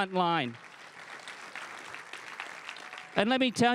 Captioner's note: crowd cheering and applauding